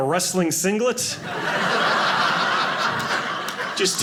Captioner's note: audience laughing